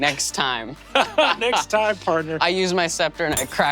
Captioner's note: laughs